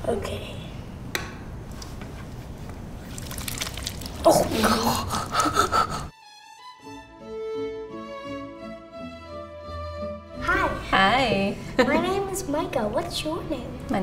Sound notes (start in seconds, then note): 1.0 foot switch clicks; 2.7 clay sloshing; 4.4 laughs; 6.2 peaceful classical music